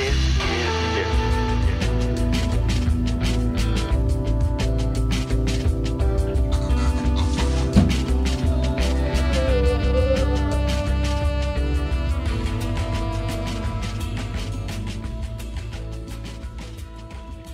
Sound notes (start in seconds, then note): 4.4 coughs and gurgles